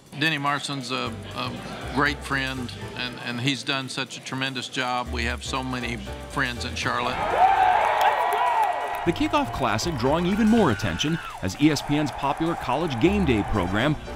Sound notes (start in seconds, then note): 6.9 crowd cheers